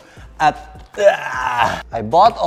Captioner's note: grunts